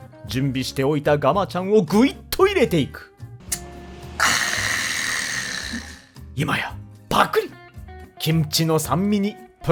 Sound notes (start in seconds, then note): 7.0 gulp